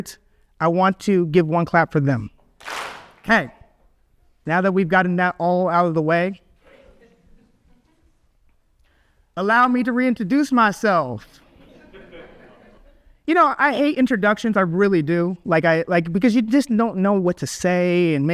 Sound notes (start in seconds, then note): 2.6 audience claps; 11.5 audience laughs